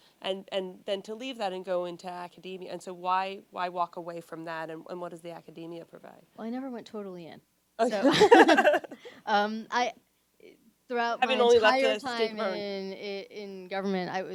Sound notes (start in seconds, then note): 7.8 laugh